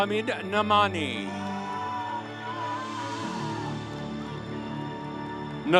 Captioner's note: audience cheering